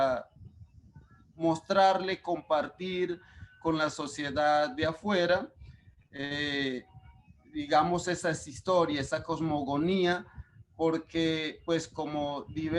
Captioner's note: speaking Spanish; speaking Spanish